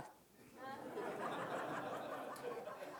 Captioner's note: laughter